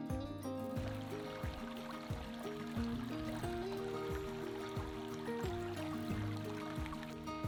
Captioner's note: spring water running; water running